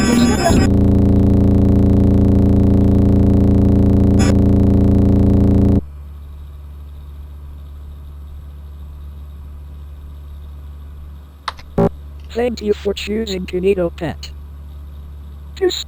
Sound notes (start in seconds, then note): 0.0 computer humming